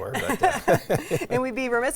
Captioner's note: both laughing